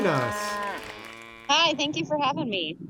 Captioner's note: mooing and applauding die out